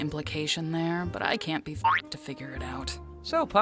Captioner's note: boink!